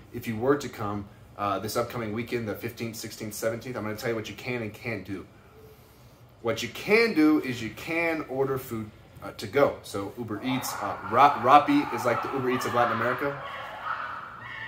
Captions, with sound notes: if you were to come this upcoming weekend, the 15th, 16th, 17th, I'm gonna tell you what you can and can't do. What you can do is you can order food to go. So Uber Eats. (dogs barking) Rappi is like the Uber Eats of Latin America.